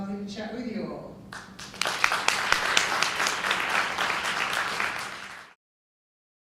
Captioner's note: audience applause